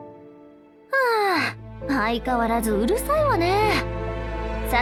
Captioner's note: sigh